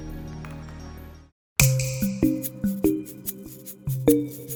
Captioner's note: tinkling